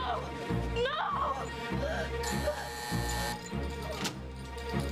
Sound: telephone rings

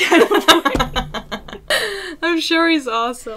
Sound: laughter

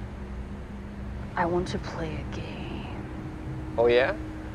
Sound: impersonating Jigsaw

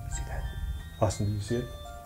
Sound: whispering

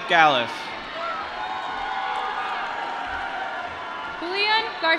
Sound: applause

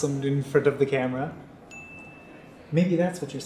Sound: bell chimes

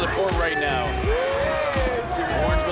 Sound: crowd cheering

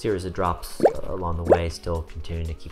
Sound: drops dripping

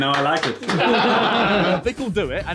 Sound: all laughing

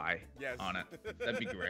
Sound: laugh

